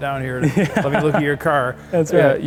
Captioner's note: chuckles